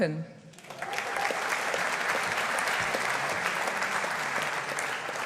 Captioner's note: audience applauding